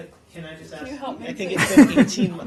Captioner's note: laughter